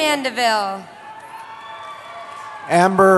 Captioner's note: cheering